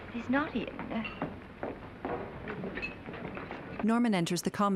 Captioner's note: restaurant din